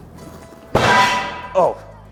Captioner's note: iron clangs